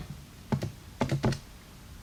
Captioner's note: typing on calculator